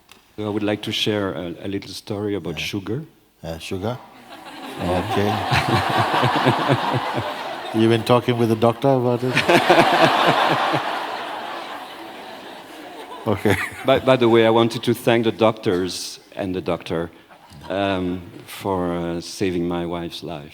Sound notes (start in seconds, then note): 5.9 laughter; 13.3 laughter